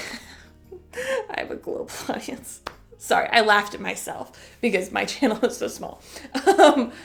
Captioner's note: chuckle